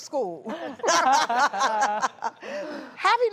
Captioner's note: all laugh